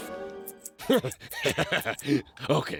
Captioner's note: laughs